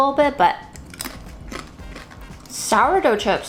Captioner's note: chip crunching